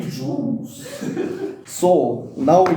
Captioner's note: laughing